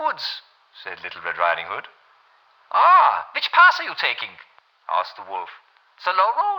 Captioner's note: German accent